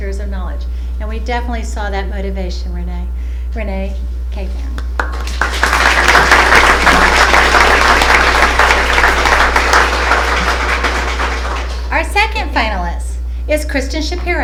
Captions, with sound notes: of knowledge. And we definitely saw that motivation Ranneh. Ranneh, thank you. (applause) Our second finalist is Kristin Shapiro